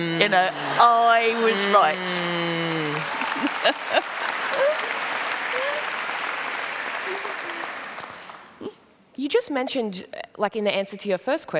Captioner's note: laughter; applause